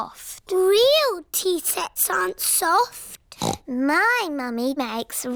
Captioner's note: snorts